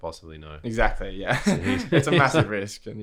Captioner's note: laughs